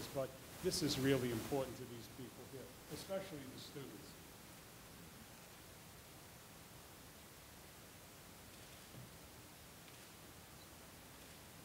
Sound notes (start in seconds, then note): none